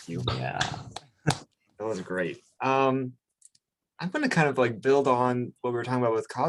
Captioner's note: clapping